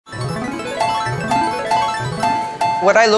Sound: slot machine chime

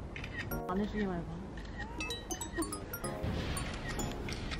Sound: sassy

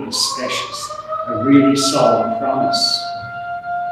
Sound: siren

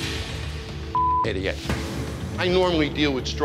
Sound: beep

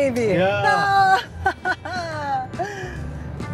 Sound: laughs

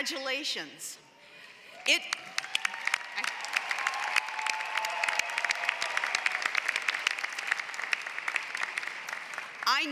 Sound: applause

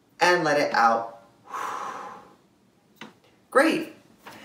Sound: exhale

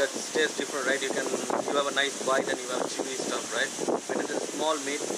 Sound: wind blows

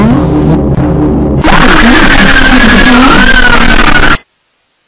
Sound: loud distorted screaming

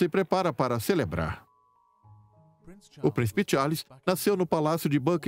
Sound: voiceover

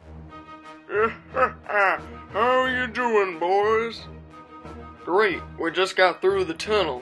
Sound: evil cackle

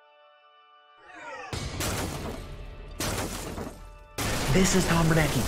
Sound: crashing

